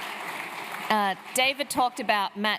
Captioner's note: applause